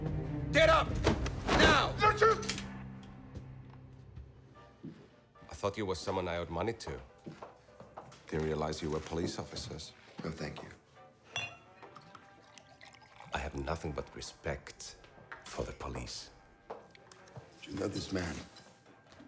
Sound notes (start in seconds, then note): 11.2 bottle clinks; 11.8 alcohol splashes